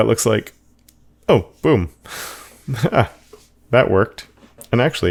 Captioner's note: laughs